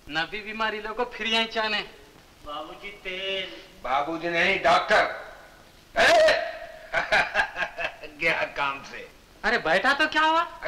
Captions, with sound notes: They have to come here even after the treatment. Sir, Oil.. - Not sir, doctor. (Laughs) You are gone. What happened if I sat here?